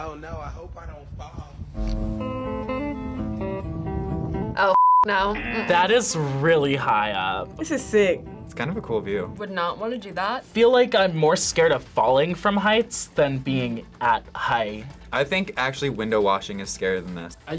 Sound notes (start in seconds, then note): 1.9 upbeat music; 5.5 buzzer rings